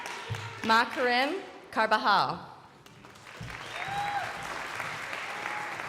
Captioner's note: crowd applauding